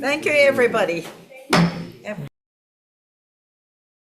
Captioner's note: gavel banging